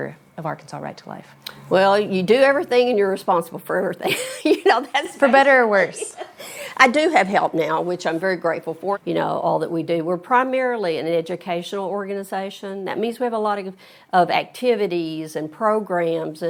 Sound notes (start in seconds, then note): 4.0 chuckles